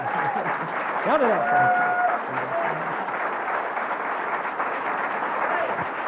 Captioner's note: crowd applauding drowns out speaker